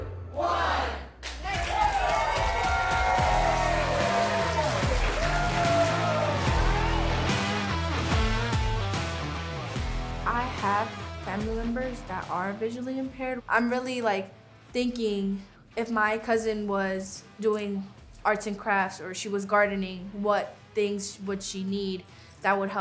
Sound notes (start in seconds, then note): 3.4 contestants cheering; 5.1 upbeat music